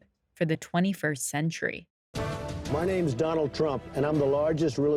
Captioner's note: soundbite of tv show, "the apprentice"